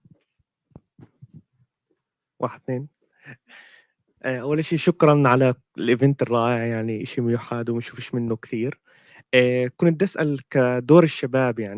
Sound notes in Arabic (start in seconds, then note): 5.6 لغة أجنبية